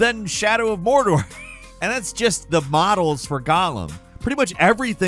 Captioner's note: laughs